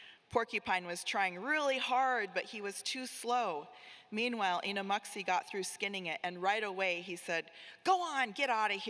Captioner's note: none